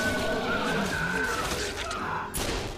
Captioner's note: gunshots booming; men screaming